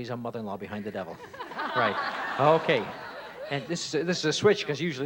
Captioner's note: audience laughs